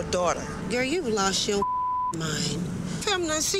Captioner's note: beep